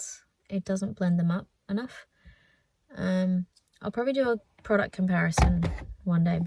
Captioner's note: thud